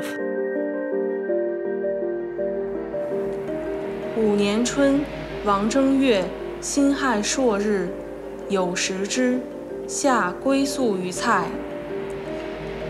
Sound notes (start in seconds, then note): 0.3 gentle piano; 4.1 speaking Chinese